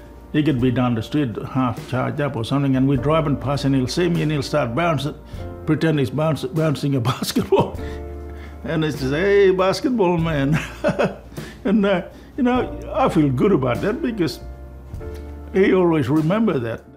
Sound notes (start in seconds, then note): 10.5 laughs